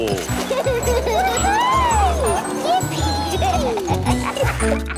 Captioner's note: giggling; laughing